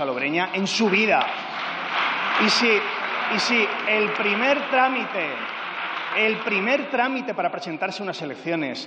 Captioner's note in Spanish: Aplausos